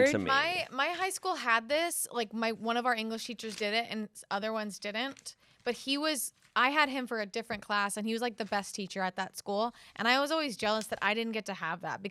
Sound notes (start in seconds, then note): none